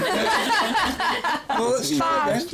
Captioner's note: laughing